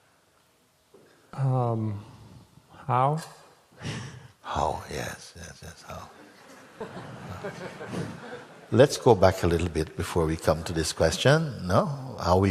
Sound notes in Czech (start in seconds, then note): 6.4 smích